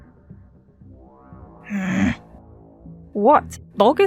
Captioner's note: scoff